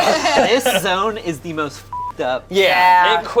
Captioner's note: beep